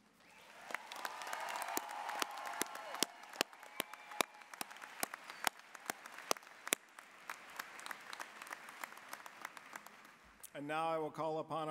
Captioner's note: applause, cheering